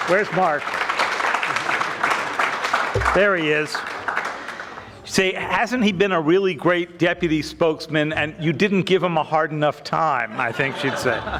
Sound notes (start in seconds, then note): 2.0 audience clapping; 10.2 audience laughing